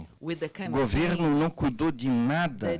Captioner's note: man speaking Portuguese